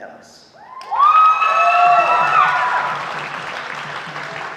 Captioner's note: audience applauding